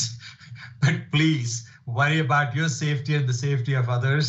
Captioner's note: laughs